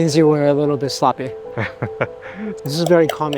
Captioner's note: laughing